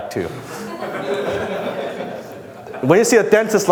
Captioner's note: audience laughs